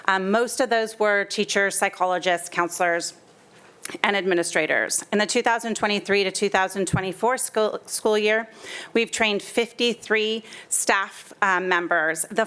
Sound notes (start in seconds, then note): none